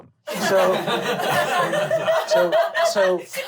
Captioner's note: laughing